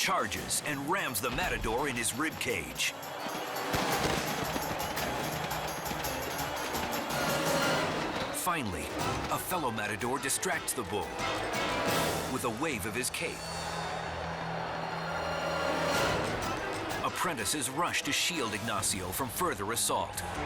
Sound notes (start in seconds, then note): 3.7 body thuds